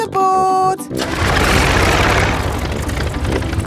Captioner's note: plane engine starts